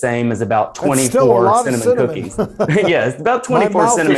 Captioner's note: chuckles